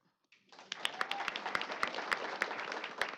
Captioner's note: applause